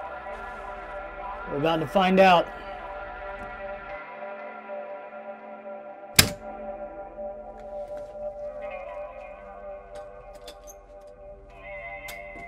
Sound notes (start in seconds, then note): 6.2 circuit breaker snaps; 8.9 doorknob squeaks